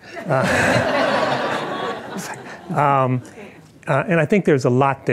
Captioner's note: audience laughing